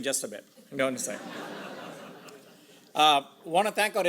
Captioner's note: audience laughs